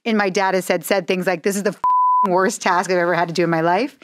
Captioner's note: beep